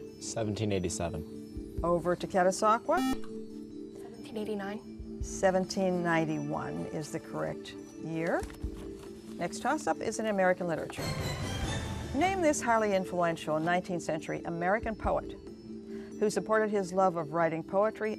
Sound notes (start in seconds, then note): 2.9 buzzer